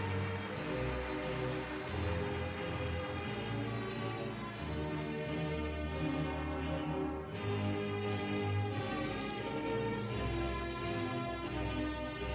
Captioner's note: applause